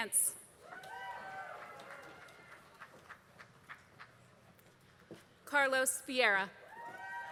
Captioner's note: applause; applause